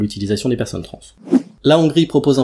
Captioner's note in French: Son de transition